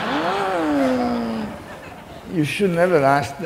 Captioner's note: groans; laughing